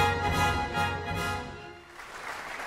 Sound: audience applauding

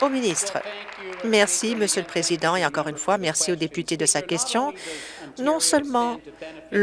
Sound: applause

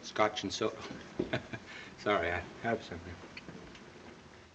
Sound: chuckles

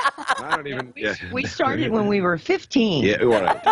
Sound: laughter

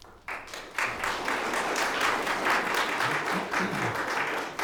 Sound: audience applause

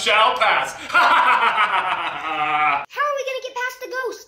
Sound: laughing

